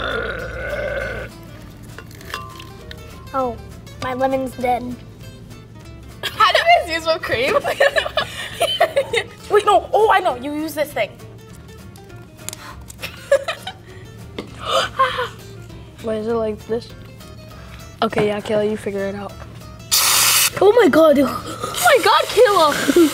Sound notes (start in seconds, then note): 0.1 juice gushing; 7.4 laughs; 13.0 laughs; 14.5 gasps; 19.9 bottle sprays